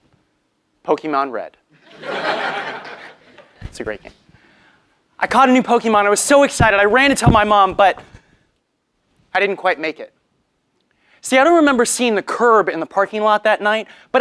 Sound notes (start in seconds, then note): 1.8 laugh